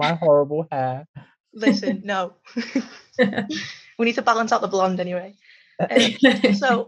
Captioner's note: laughs